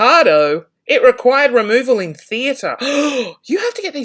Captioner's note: gasps